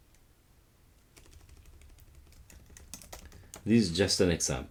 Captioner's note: keyboard clicking